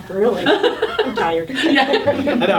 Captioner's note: all laughing